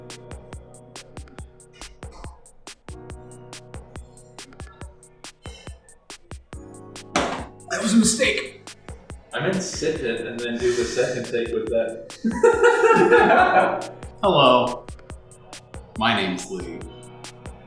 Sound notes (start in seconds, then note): 12.1 laughter